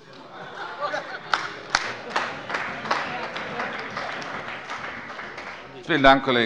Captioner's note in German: Heiterkeit und Beifall bei der FDP und der CDU